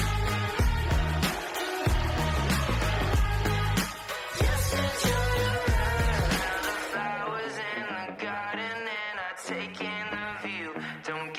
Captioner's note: cheering